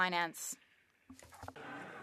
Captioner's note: some Applause